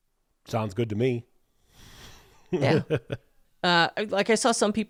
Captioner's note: chuckling